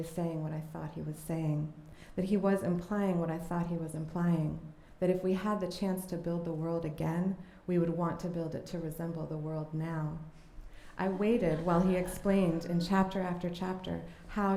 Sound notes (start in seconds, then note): 11.0 laughter